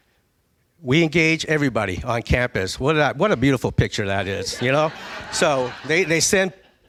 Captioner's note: laughing